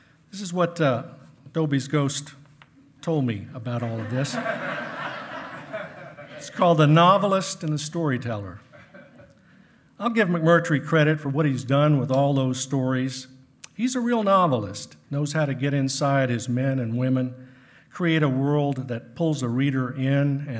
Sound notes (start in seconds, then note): 3.8 hearty laughing